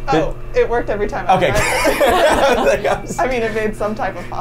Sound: laughs

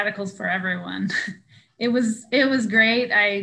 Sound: chuckling

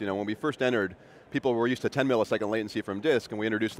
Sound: none

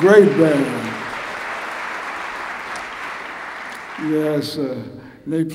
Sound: applause

